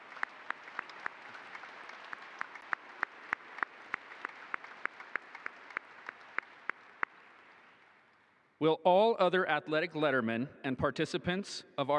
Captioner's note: applause